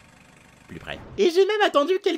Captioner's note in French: boum